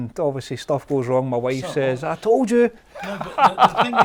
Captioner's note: laughing